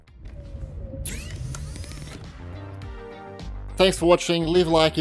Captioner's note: electronic whirring